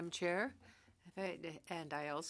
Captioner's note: speaking French